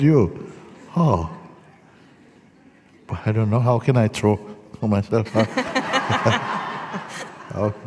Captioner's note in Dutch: gelach